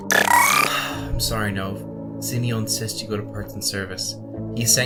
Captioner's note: exhale